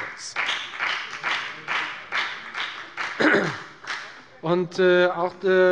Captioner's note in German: Beifall bei der FDP